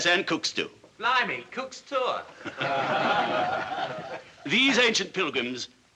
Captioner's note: all Laughing